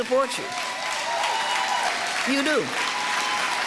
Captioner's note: audience applause